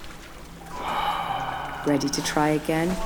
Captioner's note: sigh